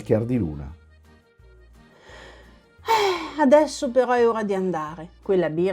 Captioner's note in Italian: sospiro